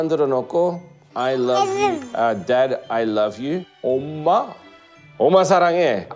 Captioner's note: in Korean